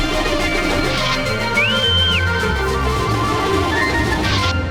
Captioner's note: whistling